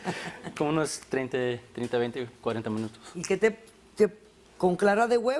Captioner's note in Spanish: Risas